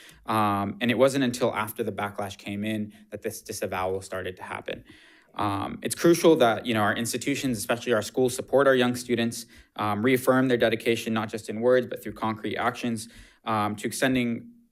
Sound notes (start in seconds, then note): none